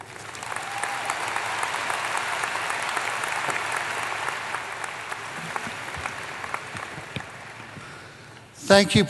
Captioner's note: applause